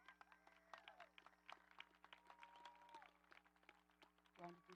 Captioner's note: audience applauding